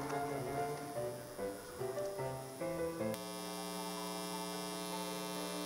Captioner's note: none